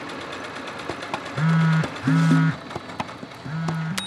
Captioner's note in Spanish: zumbador del teléfono